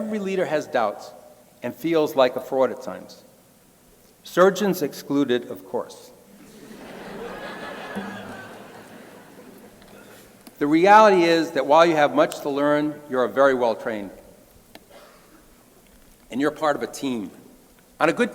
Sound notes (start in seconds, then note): 7.9 crowd laughing